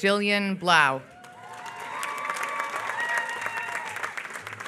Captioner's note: applause